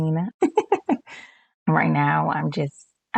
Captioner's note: laughs